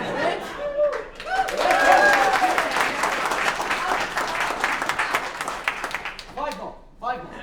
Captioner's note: applause